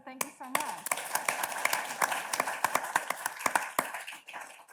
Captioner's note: audience claps